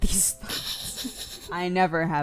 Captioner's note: snickers; cry